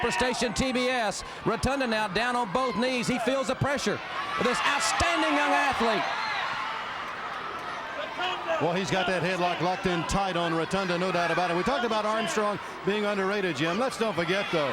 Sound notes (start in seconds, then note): 6.3 crowd chatter